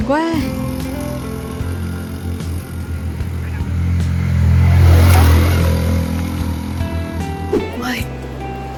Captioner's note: sound of someone riding up to the top of Dai Lanh Cape